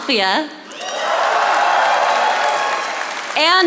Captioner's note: audience applauding